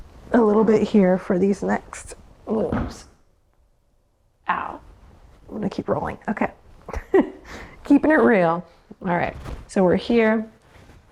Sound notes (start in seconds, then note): 2.9 head thuds loudly; 6.9 laughs